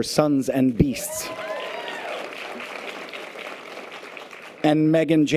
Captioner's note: audience applause and cheers